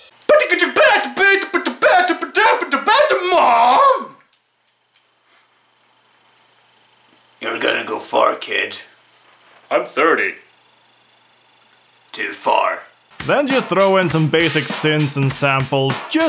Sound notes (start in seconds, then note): 4.1 silence